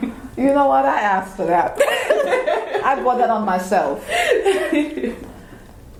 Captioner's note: laugh; laughing